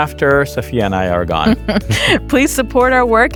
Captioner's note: chuckling